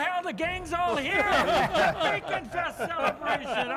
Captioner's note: everyone laughs